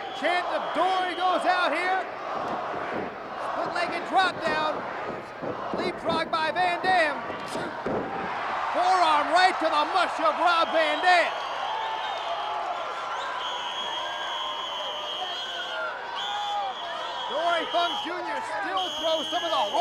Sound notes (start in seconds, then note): 11.8 crowd cheers; 13.2 whistle trills